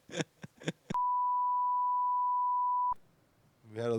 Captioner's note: laughing; beep